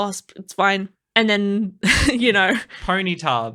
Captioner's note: laughing